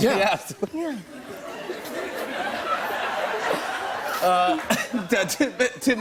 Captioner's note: laughter